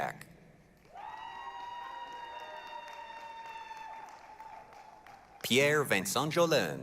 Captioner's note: applause, cheering